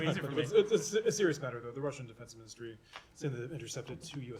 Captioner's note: laughter